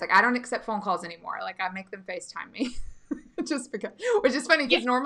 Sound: laughing

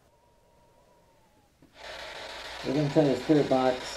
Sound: radio static

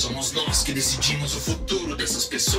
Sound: none

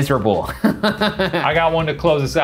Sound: laughing

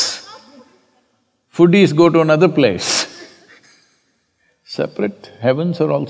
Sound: laughter

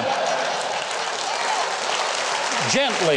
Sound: crowd laughing; crowd clapping

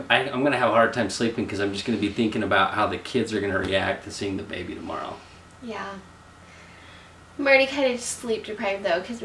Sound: none

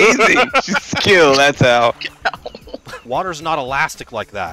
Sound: laughter

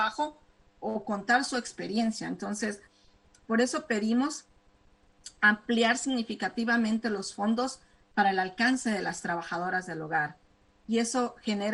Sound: speaking spanish

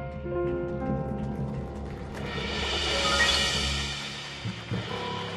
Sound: audience applauding

